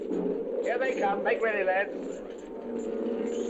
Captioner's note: wind howling